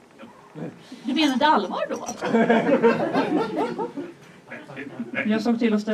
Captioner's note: audience laughs